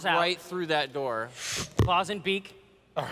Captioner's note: whoosh